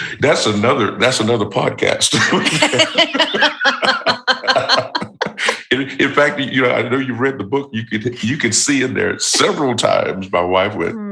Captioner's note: laughter